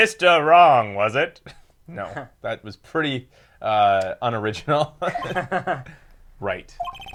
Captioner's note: laughs